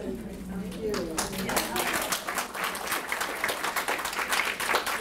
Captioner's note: audience applause